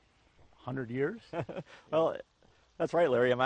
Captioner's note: laughs